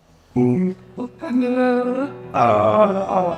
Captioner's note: makes noises of effort in reaching that become melodic